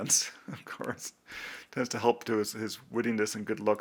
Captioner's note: chuckles